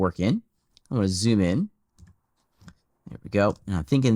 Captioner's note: keyboard clicking